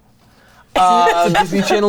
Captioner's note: laughs